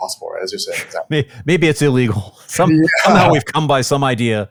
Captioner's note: laughs